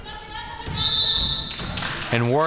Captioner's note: whistle chirping